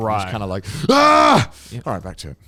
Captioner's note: screams